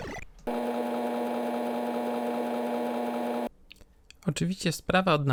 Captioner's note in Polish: dźwięk pracującej stacji 3.5